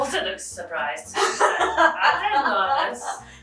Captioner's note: laughing